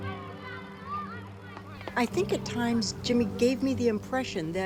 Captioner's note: students chatter